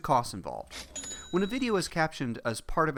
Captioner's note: cash register ring